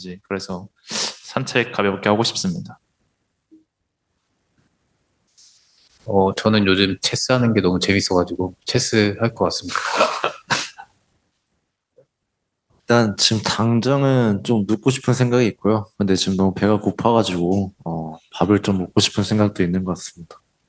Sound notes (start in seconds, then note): 9.4 laughs